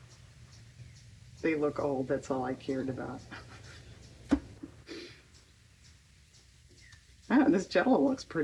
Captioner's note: laughs